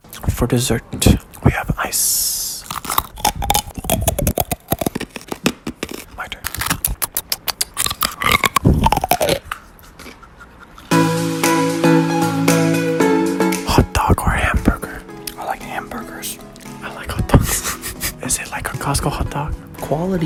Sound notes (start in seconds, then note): 2.6 ice cronch; 6.7 more ice cronch